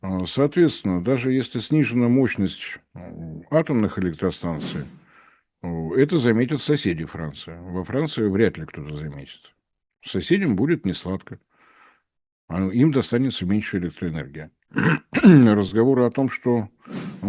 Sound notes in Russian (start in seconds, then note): 14.7 откашливается; 14.7 кашель